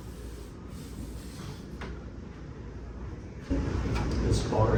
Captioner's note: exhales